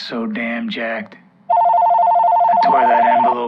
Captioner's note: phone rings